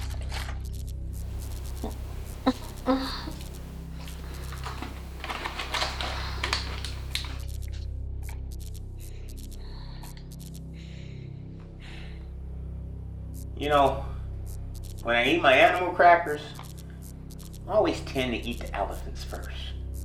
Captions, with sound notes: (Angela mutters) (electricity buzzes) (packaging rustles) (electricity buzzes) - You know when I eat my animal crackers, I always tend to eat the elephants first.